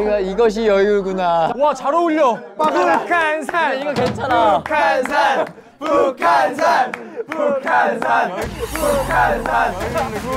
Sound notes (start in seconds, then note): 2.5 chanting; 3.6 chanting together